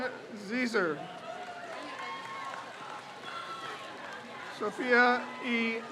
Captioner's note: crowd cheers